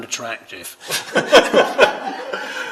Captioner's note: laughter